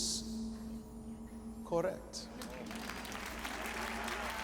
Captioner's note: crowd applauding